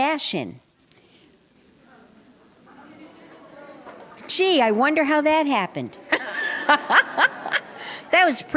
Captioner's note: laughter